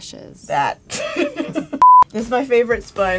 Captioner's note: laughs; beep